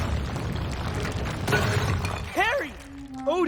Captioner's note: rumbling